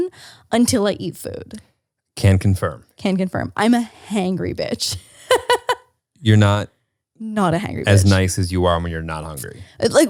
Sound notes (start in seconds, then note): 5.2 laughs